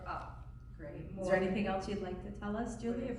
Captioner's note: voiceover